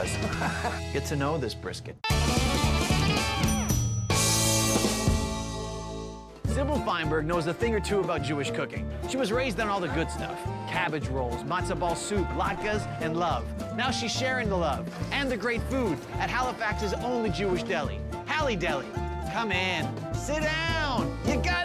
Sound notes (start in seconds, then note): 0.1 laughs; 2.1 upbeat music; 3.2 bell dings